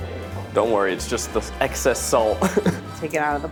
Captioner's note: chuckles